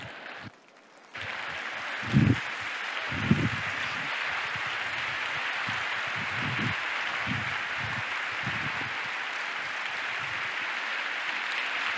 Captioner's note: applause